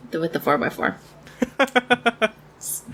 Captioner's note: laughs